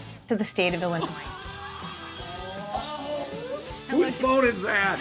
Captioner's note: phone rings